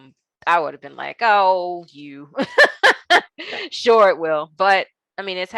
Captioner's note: laughing